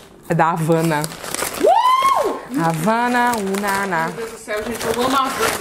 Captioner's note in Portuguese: grita; canta